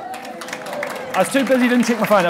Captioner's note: applauding